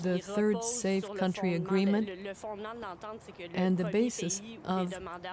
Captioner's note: speaking French